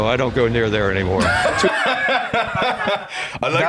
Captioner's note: laugh